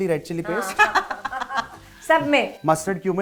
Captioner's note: chuckles